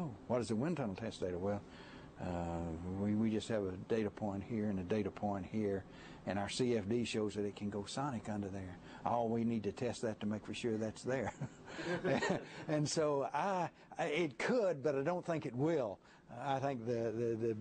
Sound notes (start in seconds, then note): 11.2 laughter